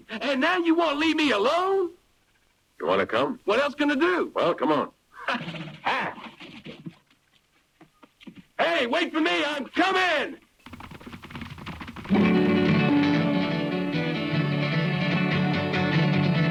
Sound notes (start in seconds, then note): 10.6 hooves pattering; 12.1 bright music